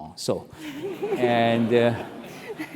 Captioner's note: laugh